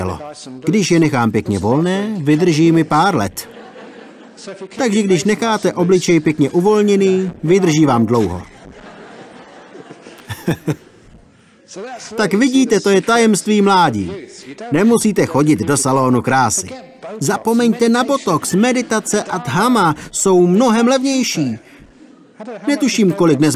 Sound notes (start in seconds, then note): 10.5 laughter